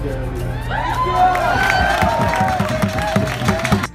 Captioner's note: cheers and applause